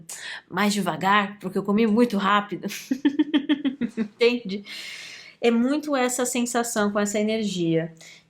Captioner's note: laughs